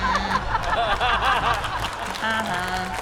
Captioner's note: chuckles mockingly; laughter; applause